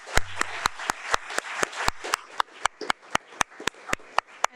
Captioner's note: audience applauding